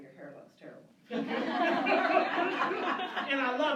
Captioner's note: laughter